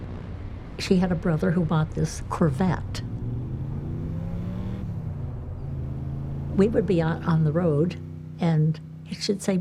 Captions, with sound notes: she had a brother who bought this Corvette. (car engine revving) We would be out on the road and she'd say,